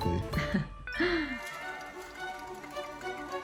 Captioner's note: laughs